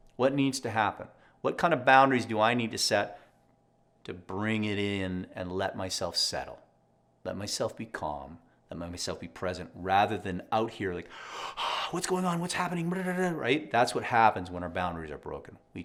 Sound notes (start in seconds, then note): 11.1 gasps